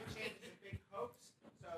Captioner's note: laughter